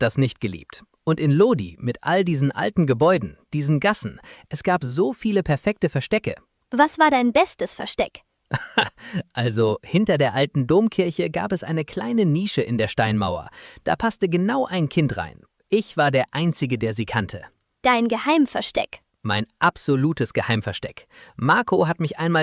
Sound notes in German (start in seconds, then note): 8.5 gelächter